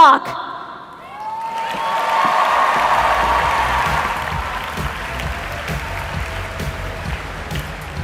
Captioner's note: applause